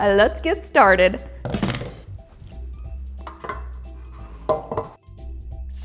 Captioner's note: light piano music; hands pattering loudly; baking dish clatters